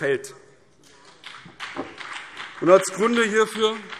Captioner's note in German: Beifall BÜNDNIS 90/DIE GRÜNEN und vereinzelt CDU